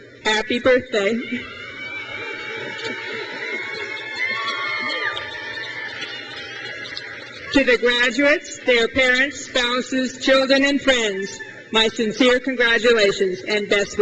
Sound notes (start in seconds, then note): 2.0 crowd cheers